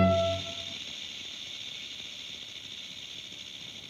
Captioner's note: snake rattles